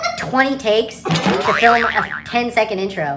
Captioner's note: boing